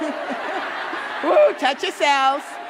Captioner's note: audience laughing